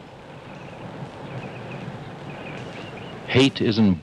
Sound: birds chirping

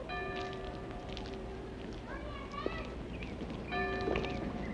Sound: bell tolling

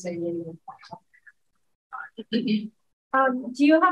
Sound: electronically garbled speaking

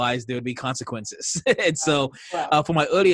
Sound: laughing

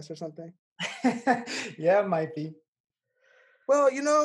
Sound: laughs

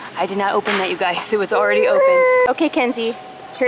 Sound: loud whimpering

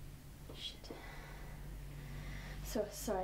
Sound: Bea takes a deep breath

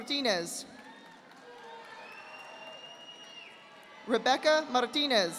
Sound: audience applauding

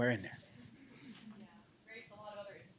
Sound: laughing

